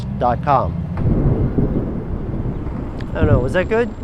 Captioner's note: thunder rumbling